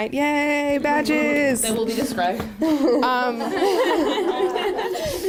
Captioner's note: laughter